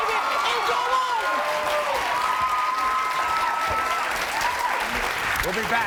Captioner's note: audience cheering